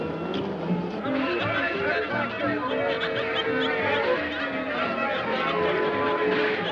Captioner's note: cheerful music; people chattering